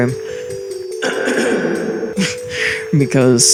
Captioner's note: clears throat